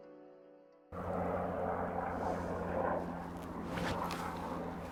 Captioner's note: helicopter blades whirring